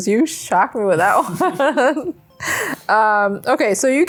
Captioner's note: laughs together